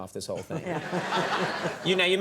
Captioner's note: audience laughs